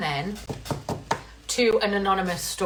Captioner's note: tapping cards on table